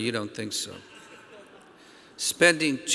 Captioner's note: audience laughing